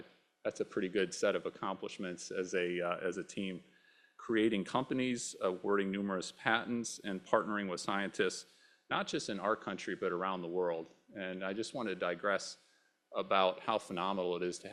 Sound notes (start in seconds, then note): none